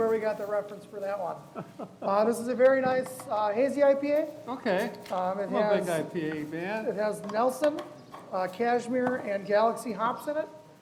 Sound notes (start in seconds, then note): 1.5 laughs